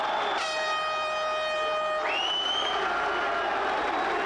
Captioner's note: audience gasping; air horn blaring